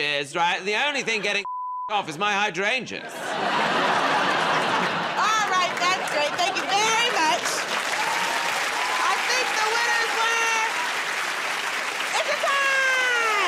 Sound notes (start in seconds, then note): 3.0 laughter; 7.7 cheers and applause